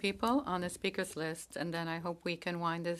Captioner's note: speaking in French